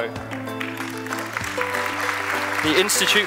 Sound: applause

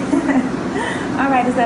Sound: laughing

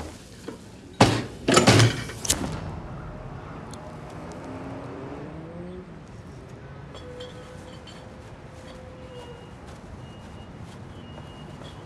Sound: loud clank

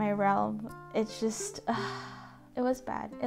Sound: sigh

